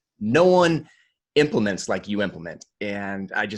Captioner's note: none